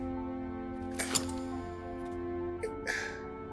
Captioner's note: metallic clink